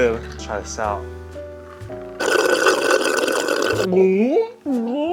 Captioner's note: slurping; gulping